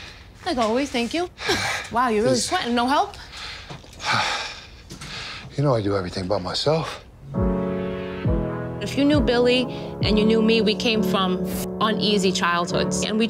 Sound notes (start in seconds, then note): 1.5 laughs; 3.2 panting; 7.3 dramatic orchestral music